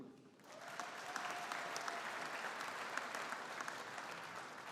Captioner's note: audience applauding